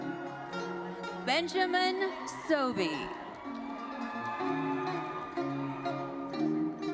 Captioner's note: audience cheering